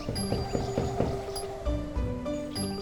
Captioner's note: door knock…